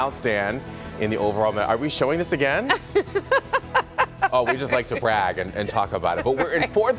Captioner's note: laughter